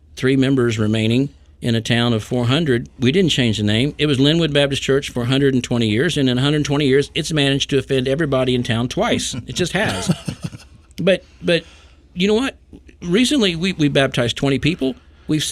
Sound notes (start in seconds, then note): 9.2 group laughing